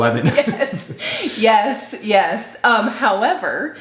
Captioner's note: laughs